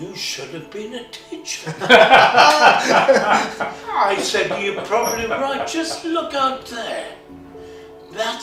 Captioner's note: laughter